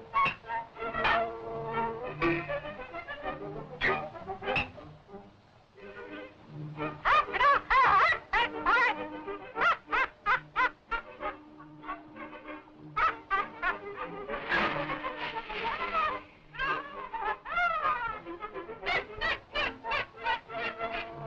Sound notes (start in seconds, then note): 6.8 squawking; 9.5 laughing; 18.8 laughing